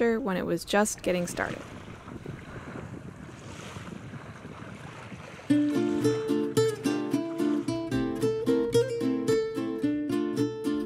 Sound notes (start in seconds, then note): 2.8 waves roll ashore; 5.5 upbeat acoustic guitar music